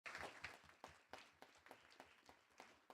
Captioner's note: applause